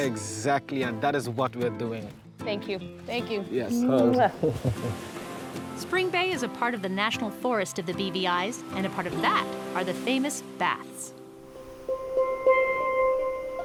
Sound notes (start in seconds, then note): 3.8 laughs